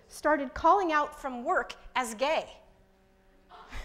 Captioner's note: laughs